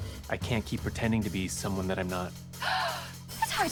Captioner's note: mar-14 gasps